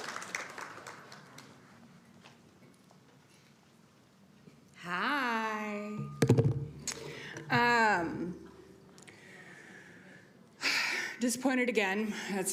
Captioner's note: applauding